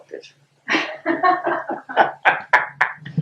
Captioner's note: laughter